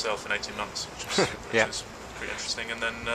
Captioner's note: chuckles